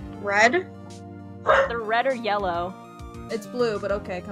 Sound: dog barks

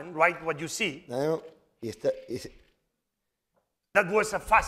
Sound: speaking spanish

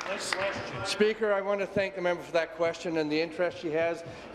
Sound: applause

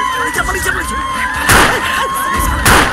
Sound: gunshot

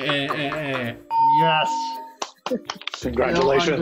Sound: laughs; bell rings

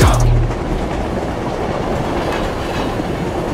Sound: clacking train tracks

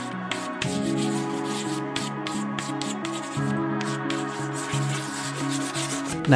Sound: chalk scribbling on blackboard

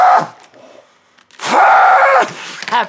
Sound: muffled scream

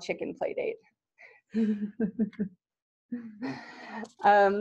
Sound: laughter

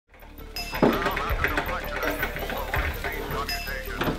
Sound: typingsounds

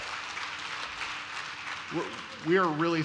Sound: applause

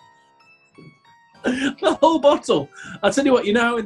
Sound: laughing

